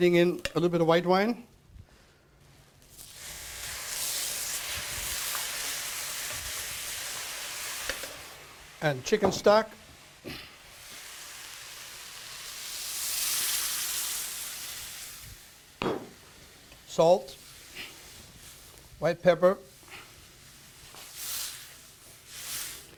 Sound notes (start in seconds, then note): 6.2 sizzling; 12.8 sizzling